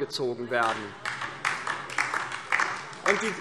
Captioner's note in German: Beifall DIE LINKE